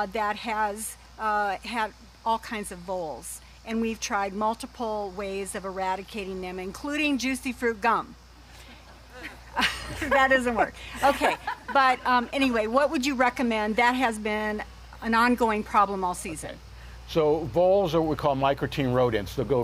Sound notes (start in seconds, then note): 9.0 laughing